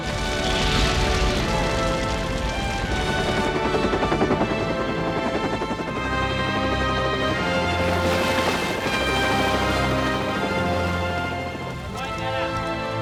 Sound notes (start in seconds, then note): 0.3 fire cracking; 3.8 helicopter rotors whirring